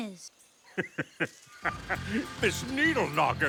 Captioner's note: laughs meanly